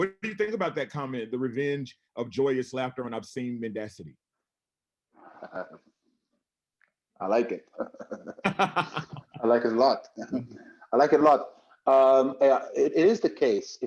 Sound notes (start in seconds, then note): 7.7 laughing